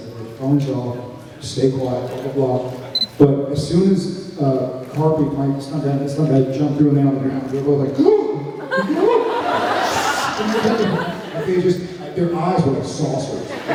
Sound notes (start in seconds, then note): 7.9 gasp!; 8.7 laughs; 13.5 laughs